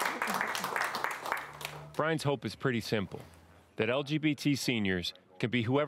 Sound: applause

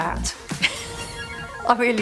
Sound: laughs

